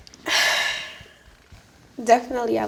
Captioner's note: sighs